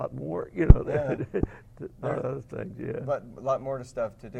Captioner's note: laugh